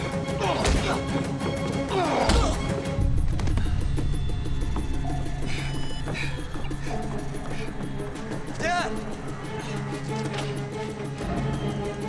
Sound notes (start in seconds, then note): 2.2 thuds